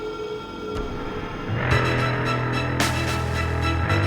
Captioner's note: gun fires